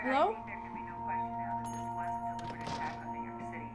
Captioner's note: news report plays on t.v